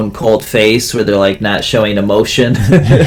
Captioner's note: laugh